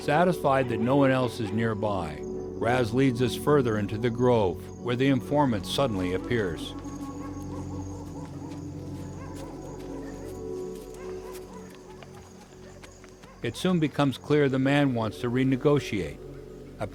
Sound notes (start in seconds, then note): 6.9 crickets and dogs barking